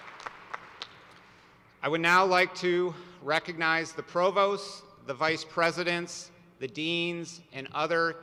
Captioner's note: applause